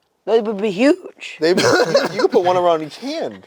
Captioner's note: laughs